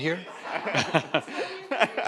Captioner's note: audience laughs